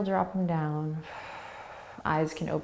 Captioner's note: exhaling